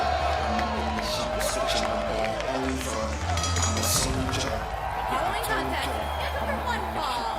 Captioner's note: bell ringing